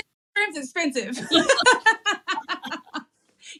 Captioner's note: laugh